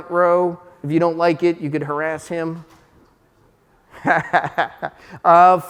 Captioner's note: laughing